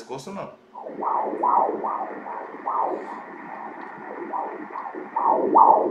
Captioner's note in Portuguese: batimentos cardíacos